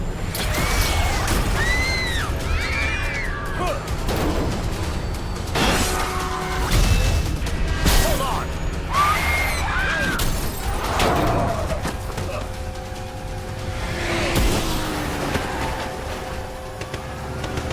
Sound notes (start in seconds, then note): 0.2 laser blasting; 0.5 children screaming; 4.1 Kyle grunting; 5.4 loud banging; 8.9 Melissa screaming; 9.2 Kyle grunting; 10.1 glass shattering; 12.5 dramatic music; 12.5 gun firing